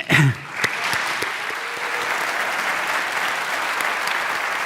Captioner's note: audience applauding